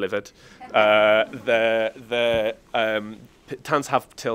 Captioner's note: audience laughs